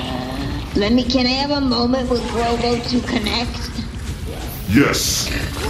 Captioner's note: sighs